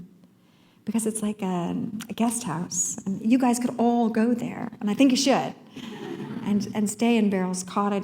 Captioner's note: laughter